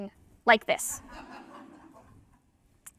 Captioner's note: laughter